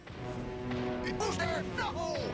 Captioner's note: thud thud thud thud